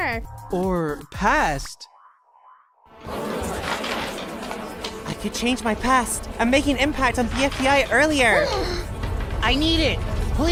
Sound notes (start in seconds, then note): 2.9 arguing; 8.5 gasp